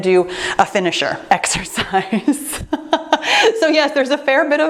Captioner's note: laughs